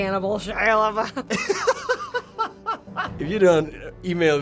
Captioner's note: laughs